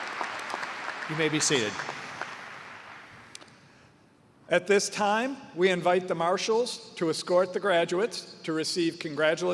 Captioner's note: cheers and applause